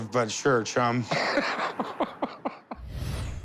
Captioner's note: laughs